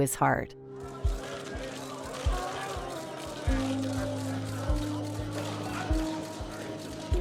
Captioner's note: cameras clicking, crowd chatting